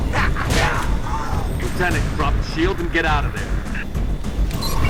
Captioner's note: radio